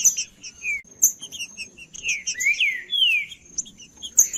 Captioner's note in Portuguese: trinca ferro cantando